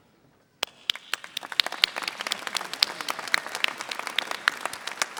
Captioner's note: audience applauding